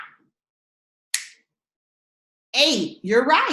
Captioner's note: snaps fingers